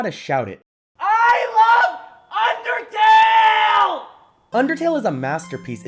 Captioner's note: shouting